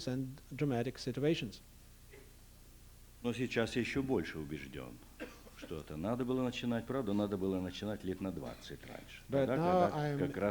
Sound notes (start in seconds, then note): 4.6 non-english speech